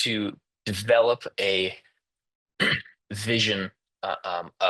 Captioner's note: interpreter clears throat